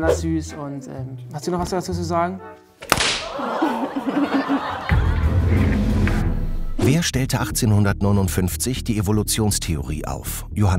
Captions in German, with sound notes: Die find ich besonders süß. Hast du was dazu zu sagen? (Oh-Laute, Lachen) (Spannungsvolle Musik)